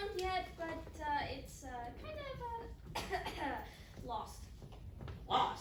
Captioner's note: coughcough